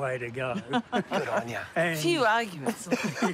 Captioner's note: laughs